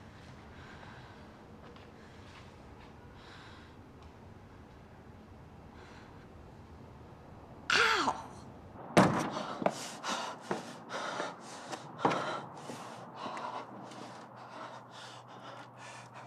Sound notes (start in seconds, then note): 8.9 door thudding; 9.2 Frenchie breathing heavily